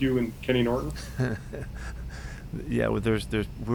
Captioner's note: slow Giggle